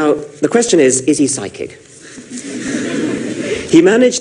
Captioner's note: laughter